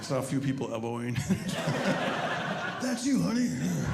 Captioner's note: audience laughing